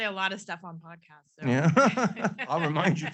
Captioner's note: both laughing